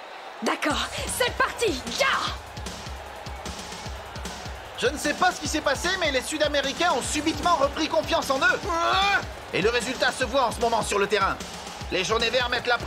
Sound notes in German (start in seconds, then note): 3.8 beifall